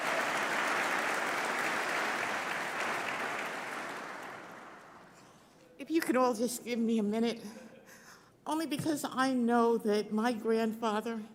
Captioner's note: applause